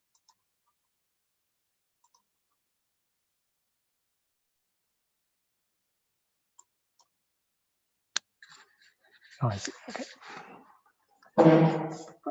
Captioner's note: chair scrape